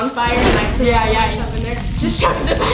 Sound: fire burning

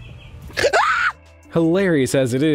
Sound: woman screaming

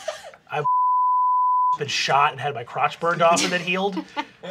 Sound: beep

